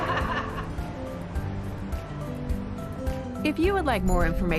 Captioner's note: everyone laughs